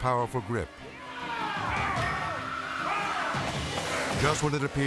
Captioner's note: people screaming